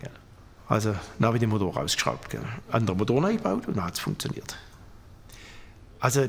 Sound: none

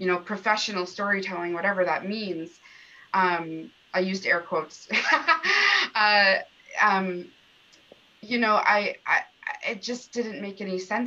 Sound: laughter

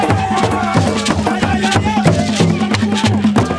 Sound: crowd; drums Beat

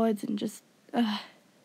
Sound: sigh

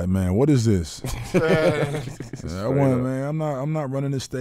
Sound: laughing

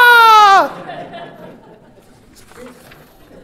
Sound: laughter

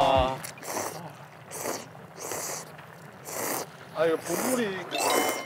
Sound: slurps

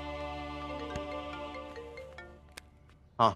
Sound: phone ringing

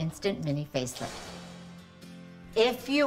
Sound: upbeat music; air whooshing

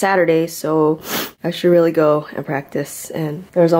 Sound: sniffles

